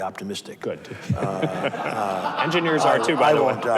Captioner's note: audience laughs